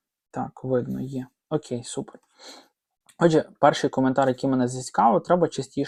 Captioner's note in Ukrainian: сопіння